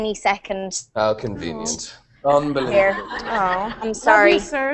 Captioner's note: risas